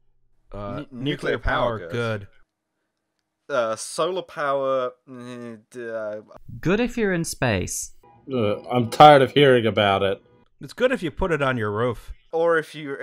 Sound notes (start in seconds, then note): 4.3 equivocating noise; 7.5 car alarm continues